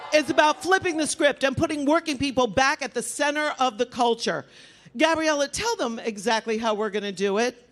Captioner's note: applause